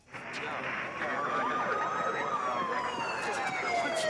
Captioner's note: sirens wail